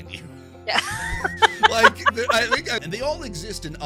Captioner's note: laughs